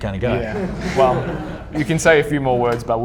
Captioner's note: audience laughing